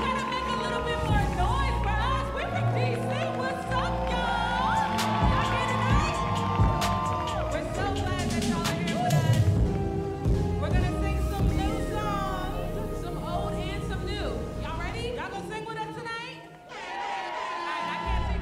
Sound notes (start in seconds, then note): 3.8 audience cheering; 16.3 audience cheering